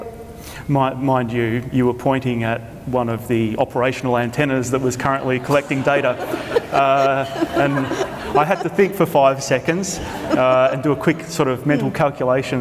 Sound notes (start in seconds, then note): 6.3 audience laughter